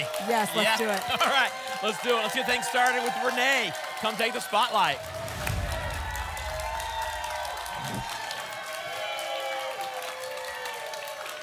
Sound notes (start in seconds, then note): 5.8 applause and cheering; 7.7 whoosh; 8.7 applause and cheering